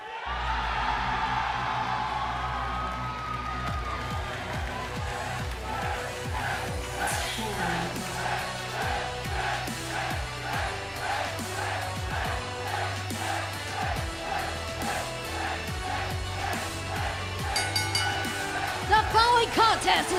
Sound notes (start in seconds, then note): 10.6 fans chanting; 17.5 bell ringing